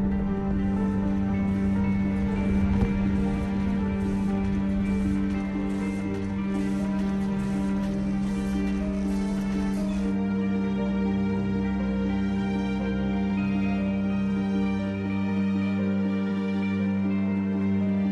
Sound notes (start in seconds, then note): 1.6 machinery chugging